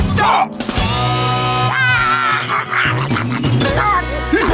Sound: baby cheering

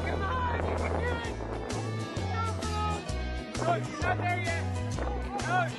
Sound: cheering

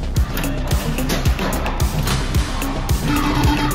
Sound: pinball noises

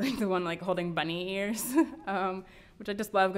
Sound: laughs

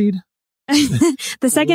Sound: laughing

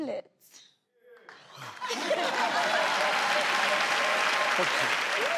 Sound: crowd claps

